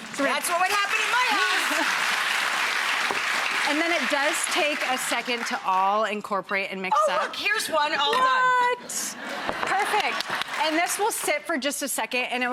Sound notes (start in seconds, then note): 0.0 audience clapping; 8.9 audience laughing